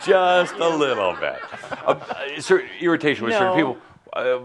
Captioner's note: some chuckles